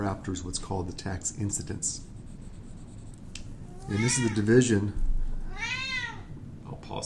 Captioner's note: meow! Meow!